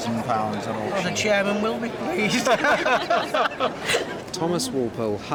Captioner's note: laughs